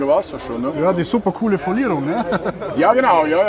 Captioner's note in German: lacht